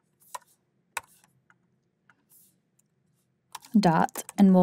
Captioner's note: keyboard clacking